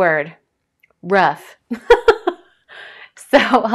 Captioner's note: laughs